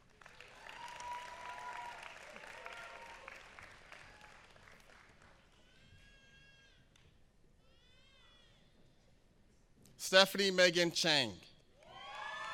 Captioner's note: applause